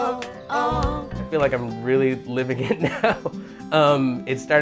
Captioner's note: laughing